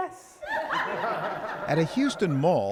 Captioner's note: laughter